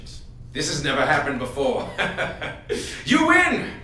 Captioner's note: laughs